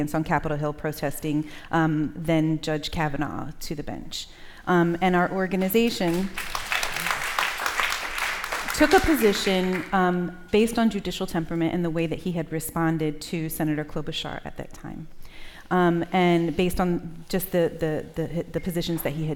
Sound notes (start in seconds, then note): 6.0 applause